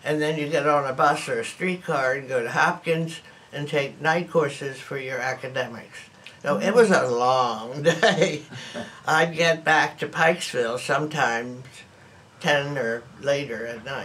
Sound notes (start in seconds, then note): 7.8 laughs